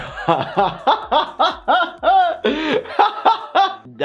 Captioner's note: laughs